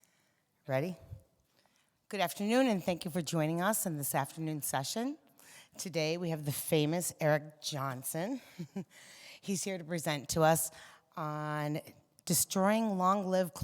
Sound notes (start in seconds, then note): 8.4 giggles